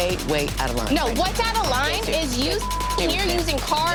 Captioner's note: beep